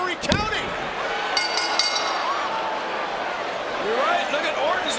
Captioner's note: bell rings